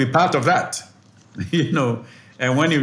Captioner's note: laugh